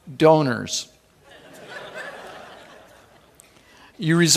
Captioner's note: laughing